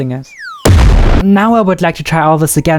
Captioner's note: bomb exploding